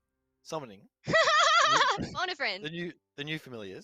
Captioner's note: laughter